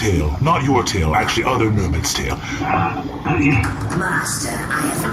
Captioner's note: muffled by cloning tube